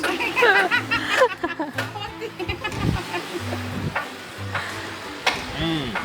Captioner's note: laughing